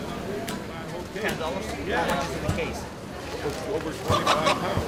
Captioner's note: people chattering; chickens clucking